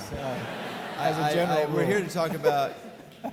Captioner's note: audience laughing